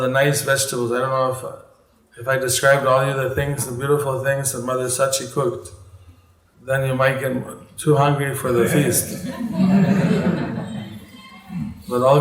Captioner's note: laughter